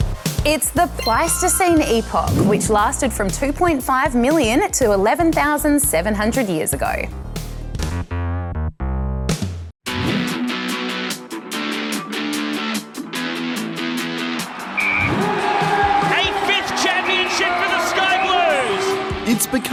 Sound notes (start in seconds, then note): 14.7 whistle blows